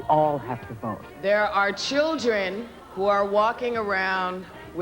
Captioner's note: none